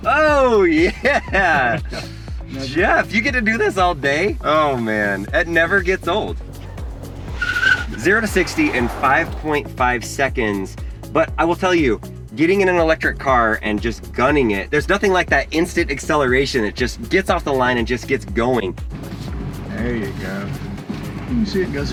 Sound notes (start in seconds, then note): 6.2 tires squealing